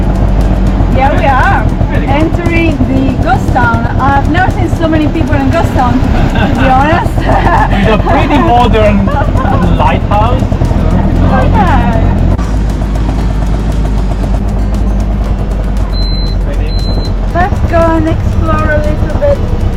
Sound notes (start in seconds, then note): 6.2 laughing; 10.8 auto engine; 19.5 calm music continues